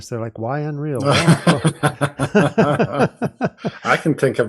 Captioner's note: chuckling